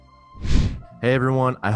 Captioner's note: air whooshing